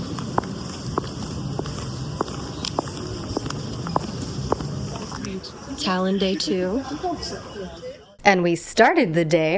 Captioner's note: hoots